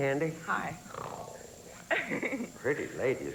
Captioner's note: growls seductively